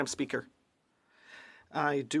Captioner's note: speaking French